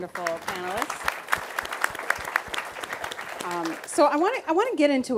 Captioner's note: applause